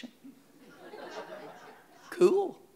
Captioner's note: audience laughing